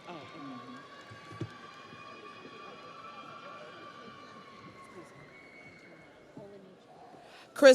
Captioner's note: audience cheers